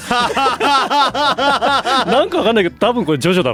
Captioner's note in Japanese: 笑い